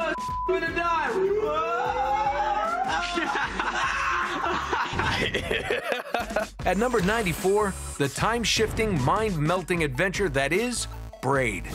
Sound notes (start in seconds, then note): 2.8 laughter; 6.2 laughs